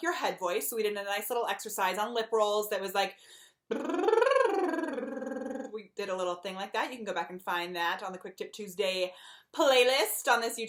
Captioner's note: brrr